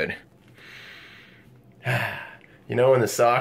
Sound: inhales deeply

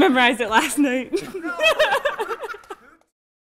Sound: laughter

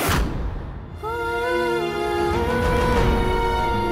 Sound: emotional vocalising

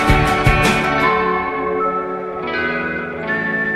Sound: whistling

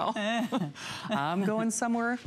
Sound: laughter

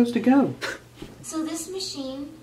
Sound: sob

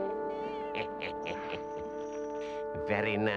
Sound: mysterious music; Henchman Weasel laughs

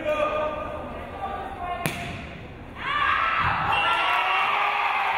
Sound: crowd cheering

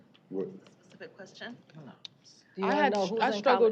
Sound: indistinct chatter

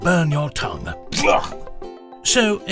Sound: gagging

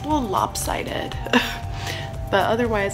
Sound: laughs

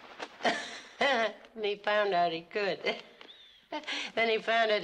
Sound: chuckles

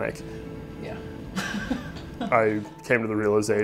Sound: laughs

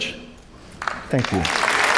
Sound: applause

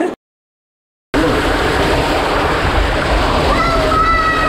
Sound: water gushing; screams

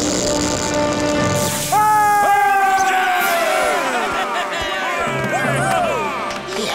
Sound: cheering

